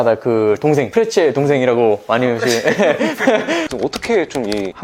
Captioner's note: laugh